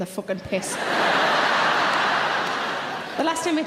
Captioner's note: audience laughing loudly